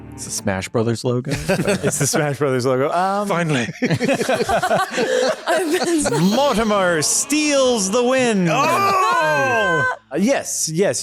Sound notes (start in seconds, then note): 3.4 laughter